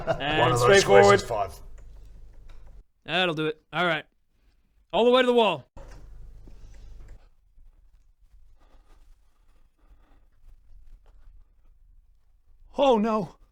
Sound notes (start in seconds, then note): 8.1 terrified silence